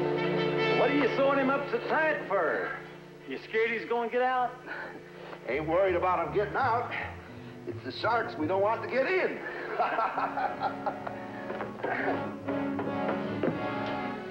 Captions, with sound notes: WHAT ARE YOU SEWIN' HIM UP SO TIGHT FOR ? YOU SCARED HE'S GONNA GET OUT ? AIN'T WORRIED ABOUT HIM GETTIN' OUT. IT'S THE SHARKS WE DON'T WANT TO GET IN. [ Guards Laughing ]